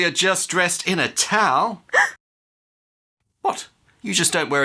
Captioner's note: woman gasps